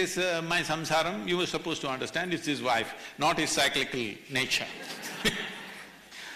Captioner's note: laughter